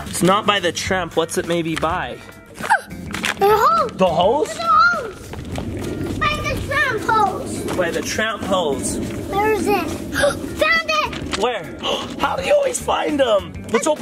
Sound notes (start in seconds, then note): 2.6 excitement gasp